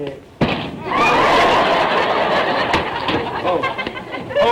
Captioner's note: audience laughter